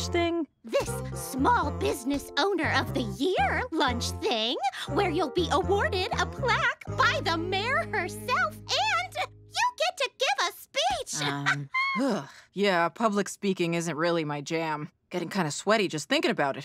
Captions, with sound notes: This small business owner of the year lunch thing, where you'll be awarded a plaque by the mayor herself. And you get to give a speech. [chuckles] [groaning] Yeah, public speaking isn't really my jam. Getting kind of sweaty just thinking about it.